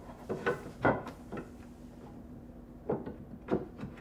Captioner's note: wood tapping